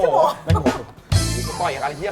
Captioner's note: Hahaha